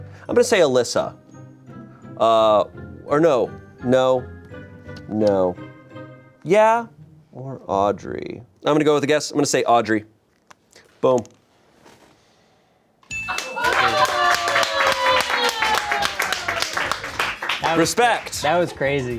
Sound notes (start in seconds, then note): 13.1 bell chimes; 13.3 everyone applauds